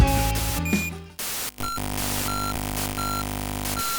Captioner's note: computer error noises